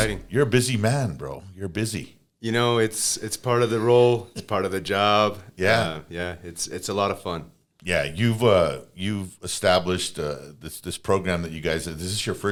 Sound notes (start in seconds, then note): 3.6 laughs